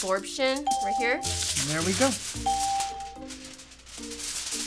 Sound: ding

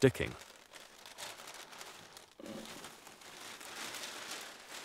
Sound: rustling

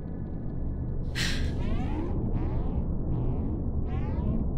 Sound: Janine gasps

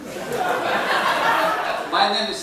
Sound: laughter

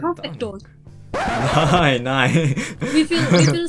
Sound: German

